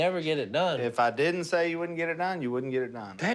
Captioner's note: none